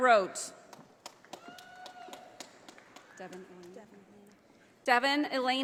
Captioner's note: audience applauding